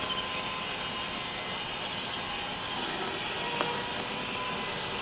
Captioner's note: machine sawing